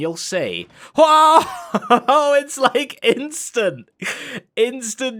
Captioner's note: laughs